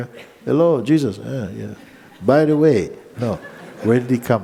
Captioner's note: laughter